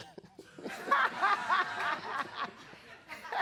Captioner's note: laughing